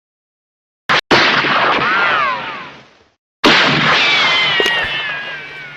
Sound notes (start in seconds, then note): 0.9 gun shots echoing